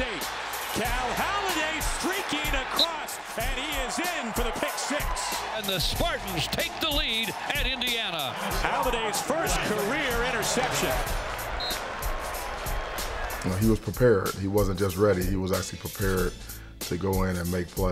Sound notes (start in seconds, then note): 10.7 crowd cheers; 11.5 whistle blows